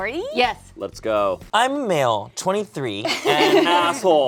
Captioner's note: group laughs